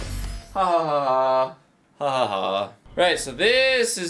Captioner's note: very fake laughter